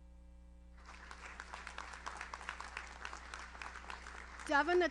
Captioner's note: audience applauds